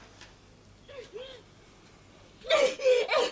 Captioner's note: Sibyl is heard weeping; Sibyl weeps